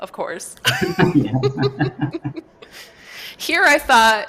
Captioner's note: laughter